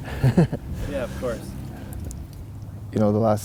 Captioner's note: laughing